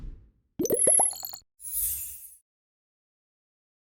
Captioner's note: bubbles popping